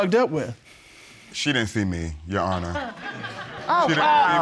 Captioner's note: audience laughs